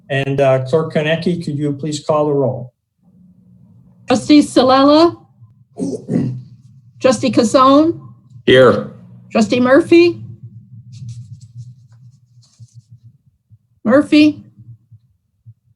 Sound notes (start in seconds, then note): 5.7 murmurs